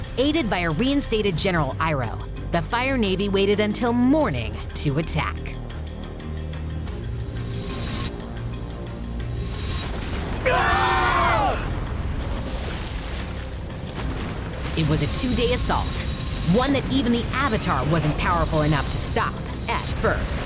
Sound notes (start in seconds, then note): 10.4 screaming